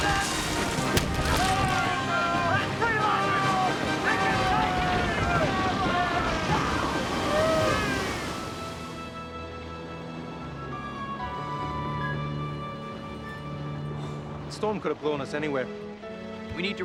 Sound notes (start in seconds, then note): 0.2 thudding; 8.4 gentle music